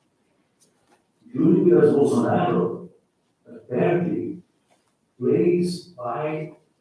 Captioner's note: faintly speaking